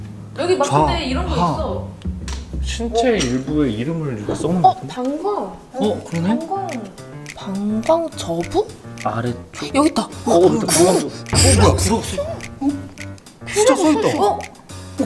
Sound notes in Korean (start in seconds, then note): 10.2 놀라는 탄성